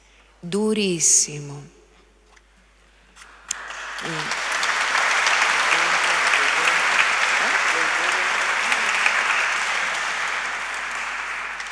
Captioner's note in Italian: Applauso